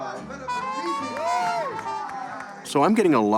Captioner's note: applause and cheers